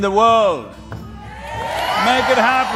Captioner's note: cheering/Applause